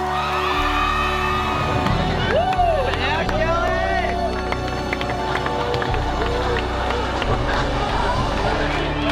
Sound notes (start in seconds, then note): 0.2 basketball team cheering; 2.0 fans cheering